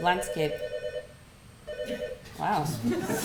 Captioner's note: phone ringing